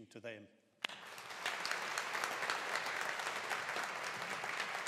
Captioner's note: audience applauding